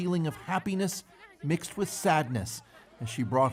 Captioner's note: speaking alternate language